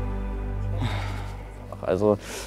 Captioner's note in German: Seufzen